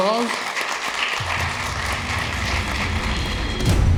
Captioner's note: applause